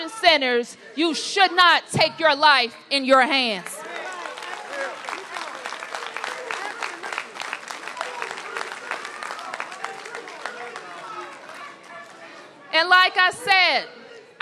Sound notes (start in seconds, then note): 6.4 applause